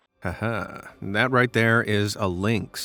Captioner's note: person laughing